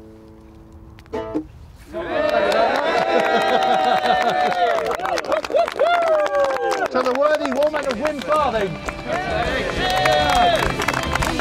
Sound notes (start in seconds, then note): 0.6 applause